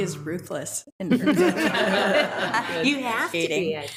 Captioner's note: attendees laughing